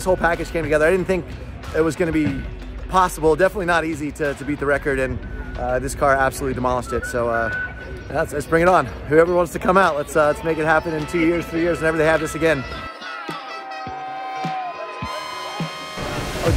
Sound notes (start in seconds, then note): 12.9 cheering; 13.2 horns